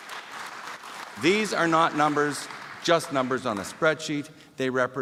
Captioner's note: applause